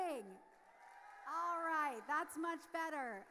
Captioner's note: audience cheers